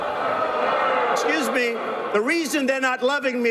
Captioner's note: booing